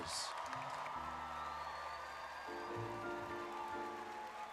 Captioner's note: audience cheering